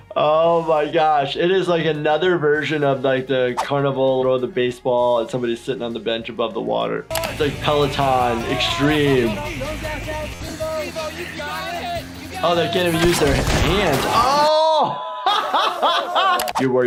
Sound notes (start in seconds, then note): 9.5 Jackass member cheering on bikers; 14.0 laughs